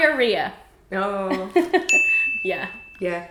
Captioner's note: laughing; bell dings